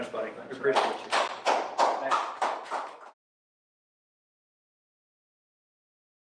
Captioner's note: applause